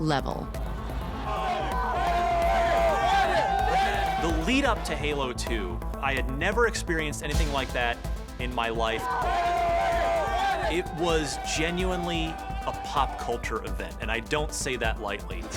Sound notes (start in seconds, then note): 0.6 loud cheering